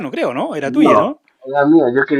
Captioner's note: laughs